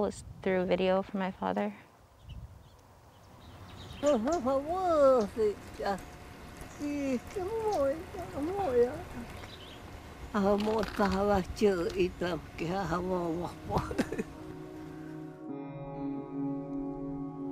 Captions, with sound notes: is through a video from my father. (speaking native language) (melancholic music)